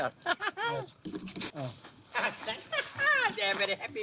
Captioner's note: chuckling; laughs